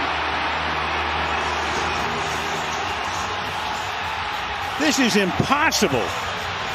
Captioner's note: applause